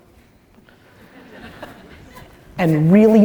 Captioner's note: audience laughter